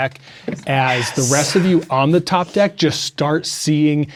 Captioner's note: sighs